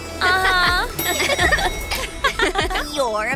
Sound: elevator dings

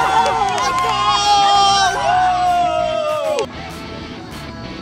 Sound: cheers

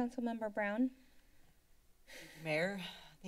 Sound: silence

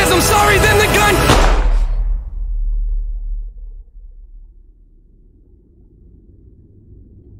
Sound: pop

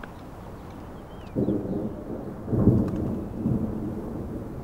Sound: thunder booms

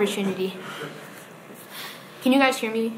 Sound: audience laughs

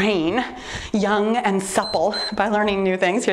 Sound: timer beeps

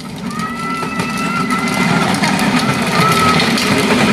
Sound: kid screaming

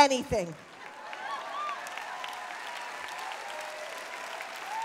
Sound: applause

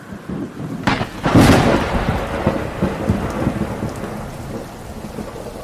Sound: thunder booms

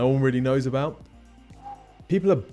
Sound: whistles

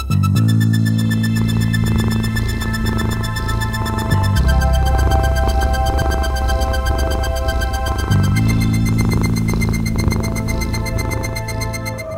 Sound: cat Purring

